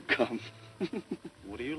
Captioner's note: chuckles